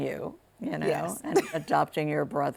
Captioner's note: laughs